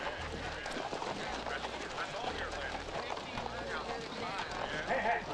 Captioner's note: jaunty saloon music; hooves clopping; men chattering